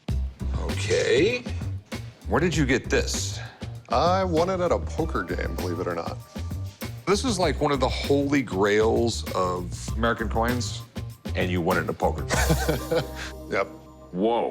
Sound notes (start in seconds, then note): 12.2 chuckles